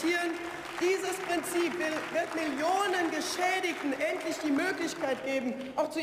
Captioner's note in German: Beifall